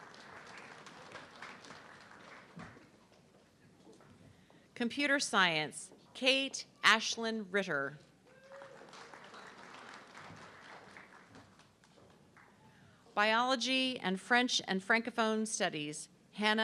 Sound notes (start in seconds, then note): 0.0 audience clapping; 8.3 audience clapping